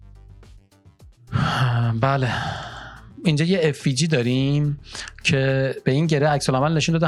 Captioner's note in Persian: صدای آه